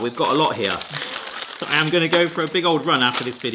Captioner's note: wrappers crinkling